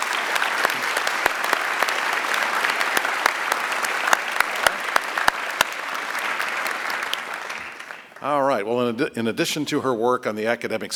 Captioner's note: applause